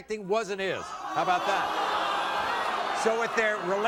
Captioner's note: audience groans